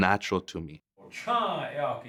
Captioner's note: men speaking Lakota